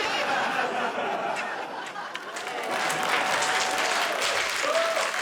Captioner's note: cheers and applause